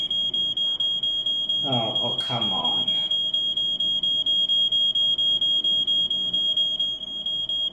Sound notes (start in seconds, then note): 0.0 fire detector alarm beeping